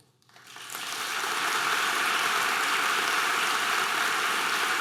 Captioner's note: audience applause